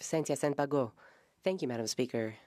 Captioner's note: speaking French